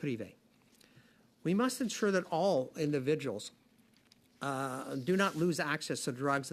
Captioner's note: speaking French